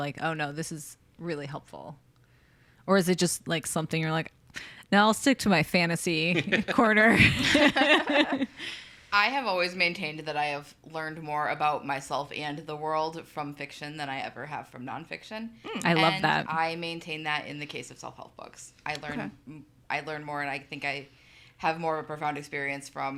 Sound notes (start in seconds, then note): 6.4 laughs